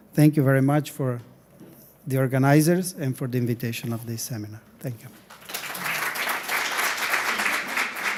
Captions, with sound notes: Thank you very much for the organizers and for the invitation of this seminar. Thank you. [applause]